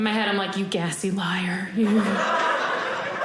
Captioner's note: audience laughing